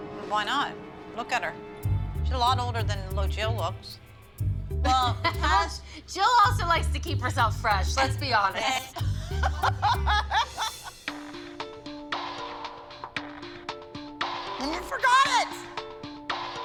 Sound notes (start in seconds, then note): 8.6 laughter; 10.9 tense music